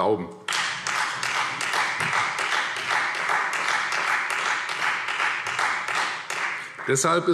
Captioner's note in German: Beifall Freie Demokraten